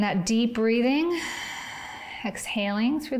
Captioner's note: exhales